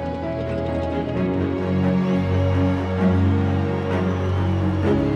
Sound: cheering

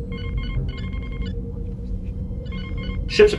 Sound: alarm

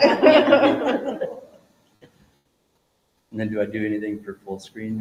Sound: group laughing

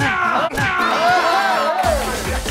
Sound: slap!!!

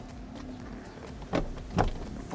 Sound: thud

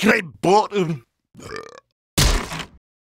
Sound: burp

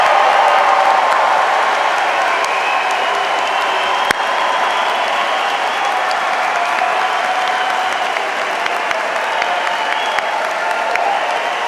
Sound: cheers and applause

